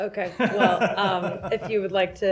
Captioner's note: laughter